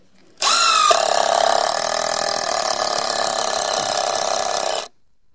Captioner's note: high pitched whirling; drill stuttering